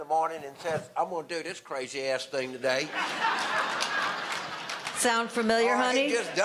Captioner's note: audience laughter